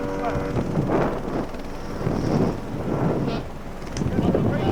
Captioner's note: helicopter whirring; wind whooshing; wind drowns out speaker